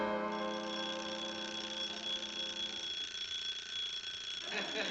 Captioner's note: alarm ringing